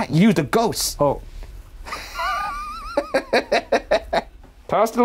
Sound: laughing

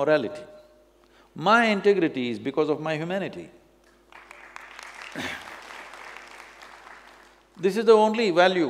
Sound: applause

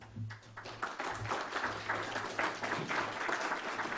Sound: applause

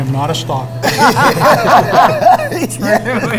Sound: everyone laughs

